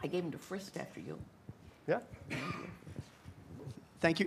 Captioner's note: light chatter